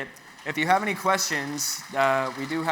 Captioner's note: audience applauds